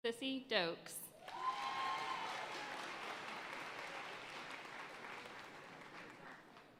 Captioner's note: audience cheering and applauding